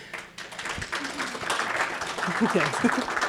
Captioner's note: audience applauding